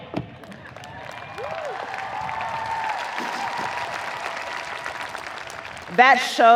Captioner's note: audience applauding; audience cheering